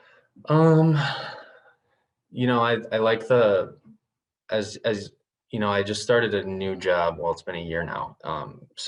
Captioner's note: sighs